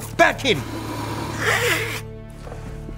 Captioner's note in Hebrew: נהמה